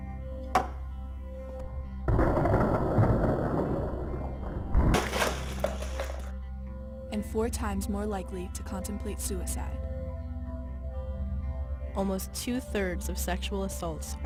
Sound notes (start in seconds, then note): 0.6 cup slams on table; 2.4 items crash to floor